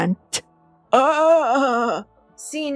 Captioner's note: old man wail